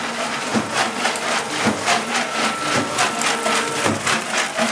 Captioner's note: loud rattling